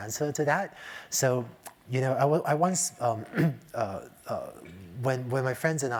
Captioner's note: cough